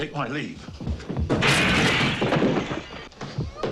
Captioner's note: footsteps shuffling; ground thuds; window shatters